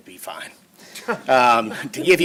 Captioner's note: laughter